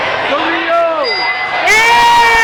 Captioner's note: dinging